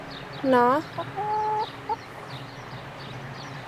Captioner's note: the chicken clucks quietly